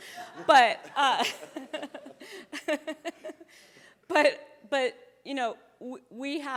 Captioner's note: chuckling